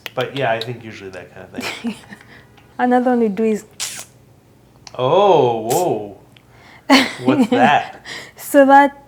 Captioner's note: mouth sound